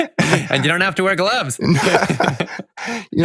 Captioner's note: laughs